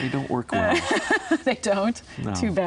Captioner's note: laughs